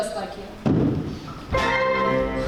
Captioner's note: thump